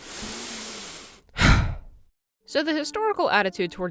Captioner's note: deep, calming breath; guttural Scream